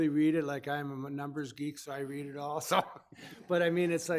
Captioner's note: laughs